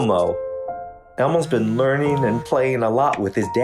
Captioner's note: phone buzzing